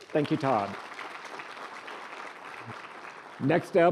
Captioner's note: applause